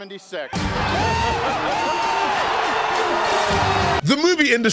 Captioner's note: crowd cheering, yelling